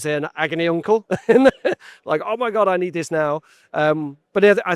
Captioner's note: giggles